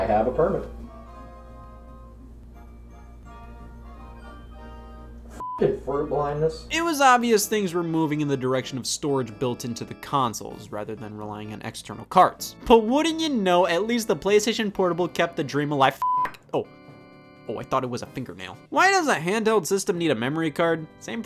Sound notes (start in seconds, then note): 1.8 light music; 5.4 beep; 16.0 beep